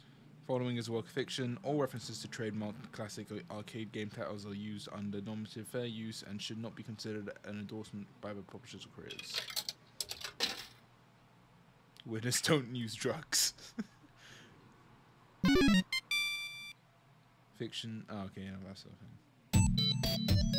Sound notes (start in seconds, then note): 13.6 laughs